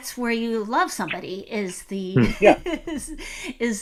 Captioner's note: laughing